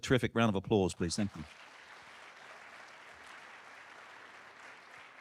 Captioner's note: audience clapping